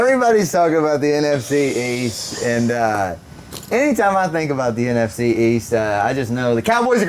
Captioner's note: laughing